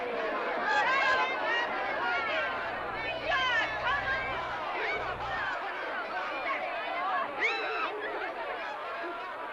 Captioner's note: jovial crowd commotion; women teasing & shouting; jovial crowd commotion